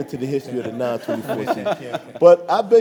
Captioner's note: audience laughs